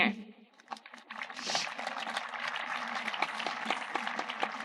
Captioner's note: audience applauding